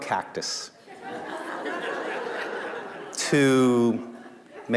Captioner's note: laughter